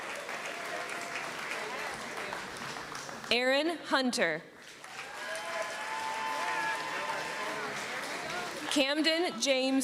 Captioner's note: applause